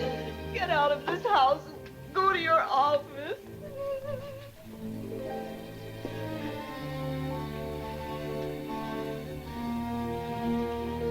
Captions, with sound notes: Get out of this house and go to your office. [sobs]